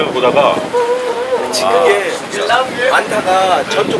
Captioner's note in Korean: 감탄